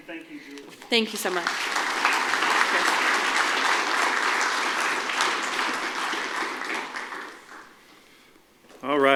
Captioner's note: applause